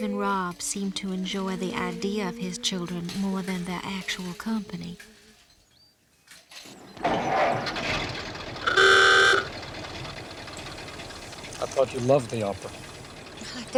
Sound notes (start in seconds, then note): 6.5 car engine starting; 8.6 car horn tooting